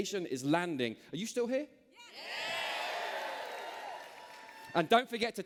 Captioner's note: cheers